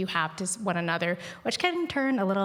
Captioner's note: speaking indigenous language